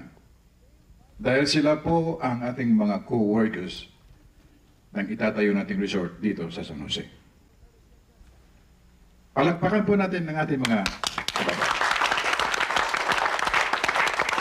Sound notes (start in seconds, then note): 10.6 applause